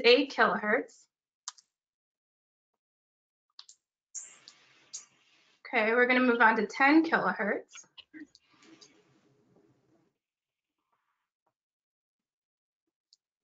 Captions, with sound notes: This is eight kilohertz. (click) (swoosh) Okay, we're gonna move on to 10 kilohertz. (click) (swoosh)